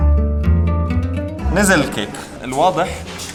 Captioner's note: Arabic